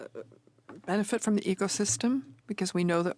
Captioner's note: speaking French